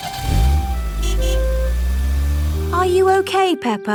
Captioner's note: horn honks